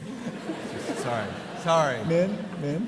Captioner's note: audience laughing